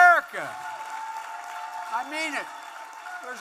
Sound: applause

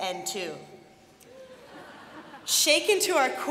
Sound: laughter

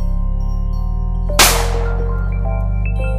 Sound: gunshot; ominous Music

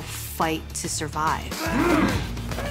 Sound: grunts

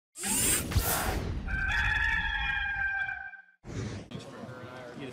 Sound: air whooshing; rooster crowing

